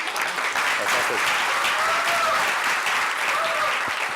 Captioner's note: crowd applauding